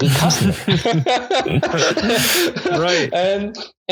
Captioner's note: both laugh